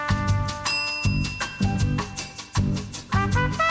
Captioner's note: bell dings; upbeat music